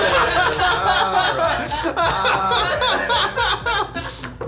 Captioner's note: all laughing